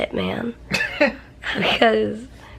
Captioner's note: chuckles